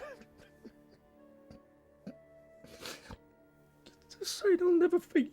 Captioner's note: sobs